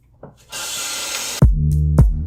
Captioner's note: bath Faucet Turning On